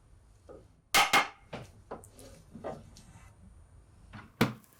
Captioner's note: hammer tapping